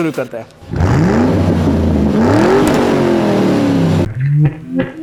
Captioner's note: car Engine Sound